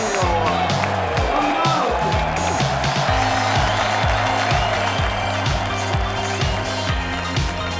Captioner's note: presenter faintly speaking; audience applauding; audience cheering; upbeat pop music